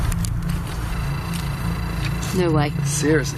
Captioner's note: metre beeping